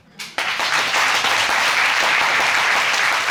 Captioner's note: audience applauding